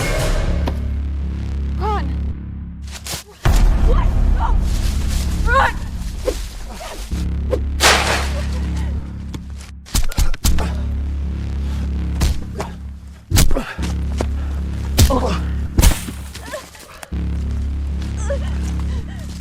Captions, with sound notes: Ron! What?! No! Ron! (Crashing branch)